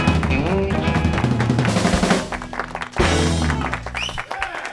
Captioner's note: applause